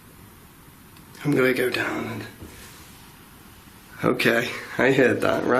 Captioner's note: thumping